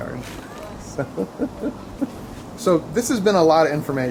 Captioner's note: laughs